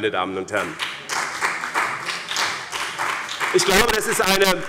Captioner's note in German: Beifall bei dem BÜNDNIS 90/DIE GRÜNEN und der CDU